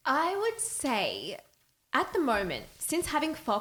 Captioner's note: none